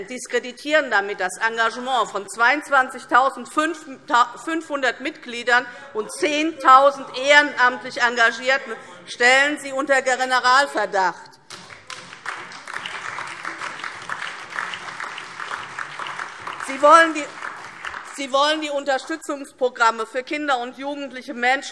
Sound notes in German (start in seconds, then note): 15.5 Beifall DIE LINKE, BÜNDNIS 90/DIE GRÜNEN und vereinzelt SPD - Zurufe AfD